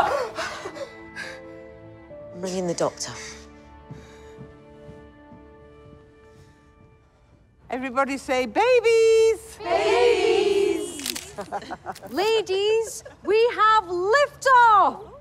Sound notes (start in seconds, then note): 3.0 footsteps descending; 11.0 camera clicks; 11.1 group laughs